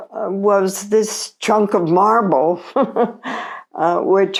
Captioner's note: chuckles